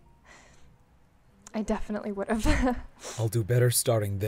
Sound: chuckles

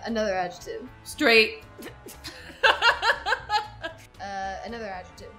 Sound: laughs

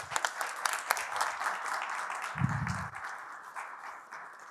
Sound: applause

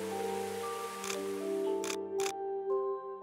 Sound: camera shutter clicks

